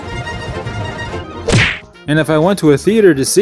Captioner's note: smack!